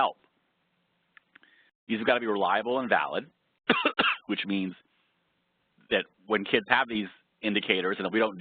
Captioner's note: cough